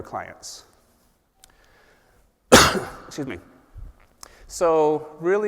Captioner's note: cough